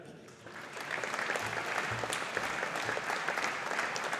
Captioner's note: audience applauding